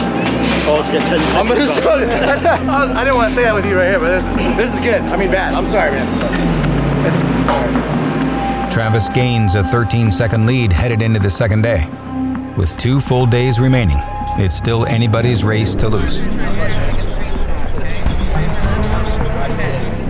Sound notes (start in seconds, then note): 16.6 chattering